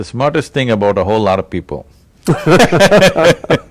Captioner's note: laughter